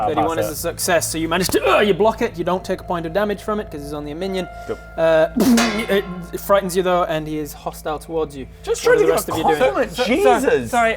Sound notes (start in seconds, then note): 5.4 clang!